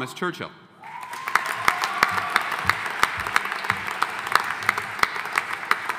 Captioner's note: audience applauding